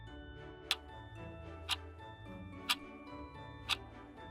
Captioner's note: clock ticking